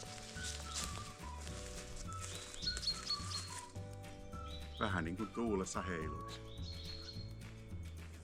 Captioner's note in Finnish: lintujen laulua